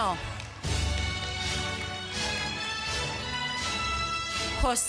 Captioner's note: applause